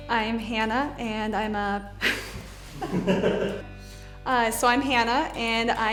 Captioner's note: background laughter